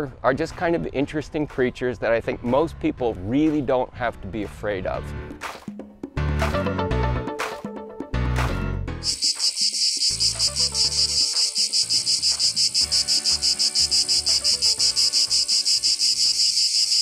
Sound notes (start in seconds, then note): 5.9 upbeat music; 9.0 cicadas chirping